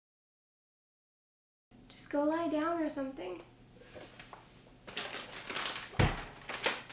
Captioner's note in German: Papiergeraschel, lauter Schlag